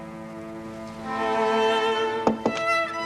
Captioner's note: knock on door